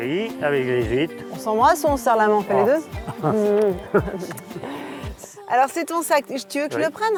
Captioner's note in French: rires